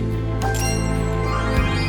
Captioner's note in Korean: 반짝이는 효과음